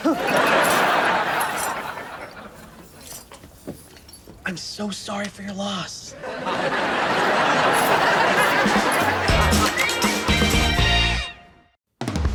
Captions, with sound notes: (audience laughs) I'm so sorry for your loss. (audience laughs) (upbeat music)